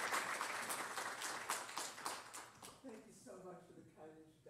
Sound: applause

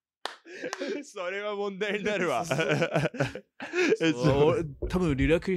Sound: laughter

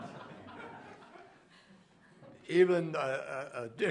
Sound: laughter

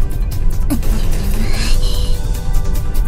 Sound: grumble

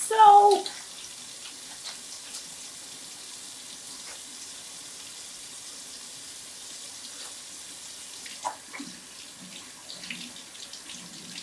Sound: running water

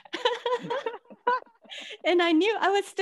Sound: all laughing

